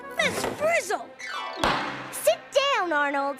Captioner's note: gavel bangs